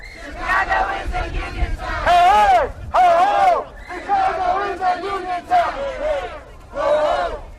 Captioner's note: chanting